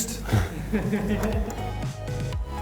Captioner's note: laughing